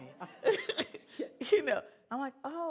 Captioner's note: laughter